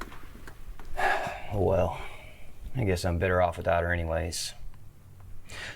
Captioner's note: sighs